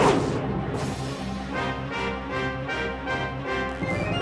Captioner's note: boom, boom